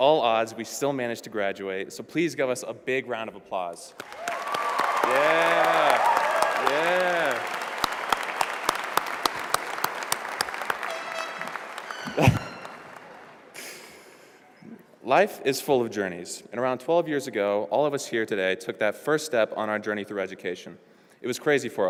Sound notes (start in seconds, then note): 3.9 applause